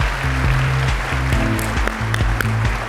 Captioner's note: applause